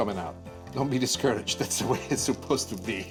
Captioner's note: he laughs